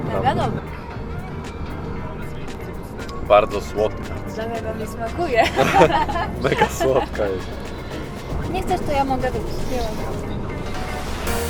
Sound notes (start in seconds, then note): 5.2 laughs